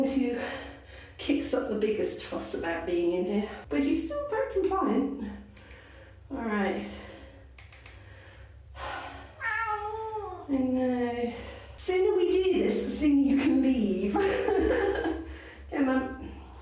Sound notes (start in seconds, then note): 9.4 meow; 14.1 laughing